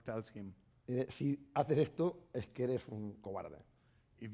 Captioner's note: speaking spanish